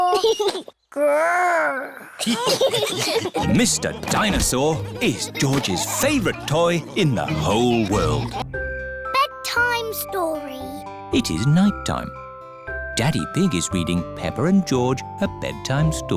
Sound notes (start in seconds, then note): 2.2 giggles; 2.2 laughter